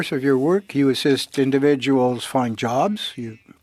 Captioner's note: speaking French